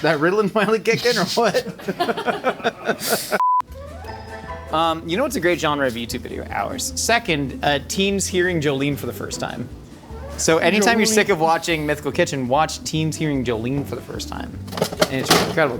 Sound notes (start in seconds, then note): 1.4 everyone laughing; 3.4 tone beeps; 3.5 whimsical music; 14.7 refrigerator drawer slamming